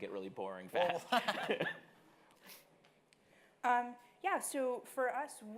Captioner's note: laughing